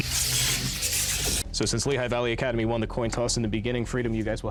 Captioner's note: dramatic voice